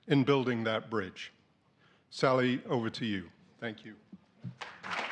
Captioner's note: applause